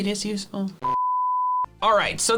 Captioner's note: beep